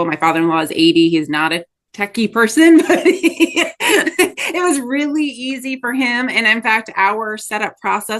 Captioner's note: laughs